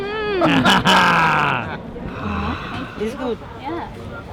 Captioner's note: all laughing